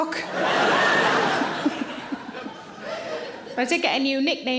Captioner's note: audience laughing